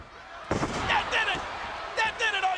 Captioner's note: bodies thuds